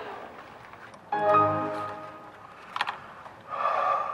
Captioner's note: computer Sound